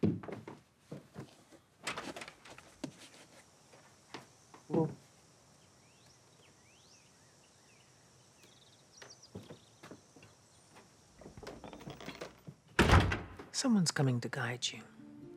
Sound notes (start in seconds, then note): 5.6 birds singing; 12.7 door clicking